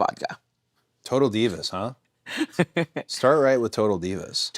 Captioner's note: Nattie laughs